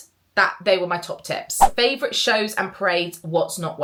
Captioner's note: screen fwipping